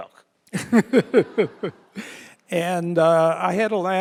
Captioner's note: laughs